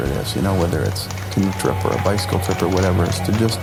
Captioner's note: crowd clapping, cheering